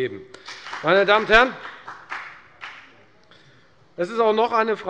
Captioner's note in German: Beifall bei der FDP